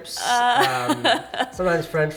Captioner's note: laughs